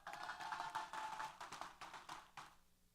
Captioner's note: applause & Cheers